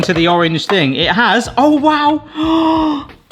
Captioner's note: gasps